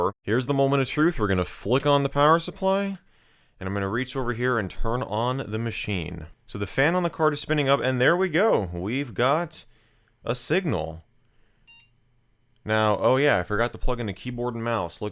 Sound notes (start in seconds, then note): 11.6 computer beeps